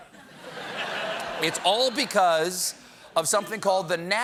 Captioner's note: laughter